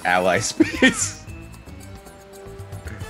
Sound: laugh

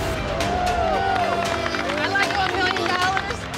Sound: cheering

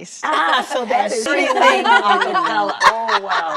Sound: laughter

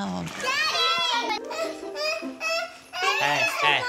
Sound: crying

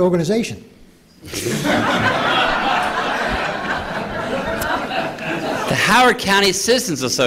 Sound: laughter

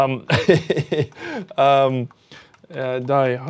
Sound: laughs

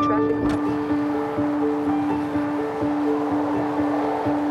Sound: vehicles whooshing; suspenseful light classical music continuing

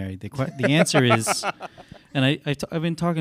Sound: laughs

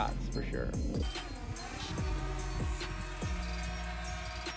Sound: drone buzzes

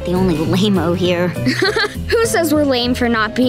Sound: laughing

